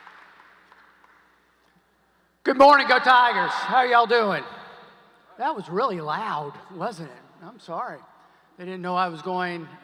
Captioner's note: applause